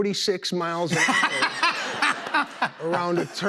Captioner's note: laughter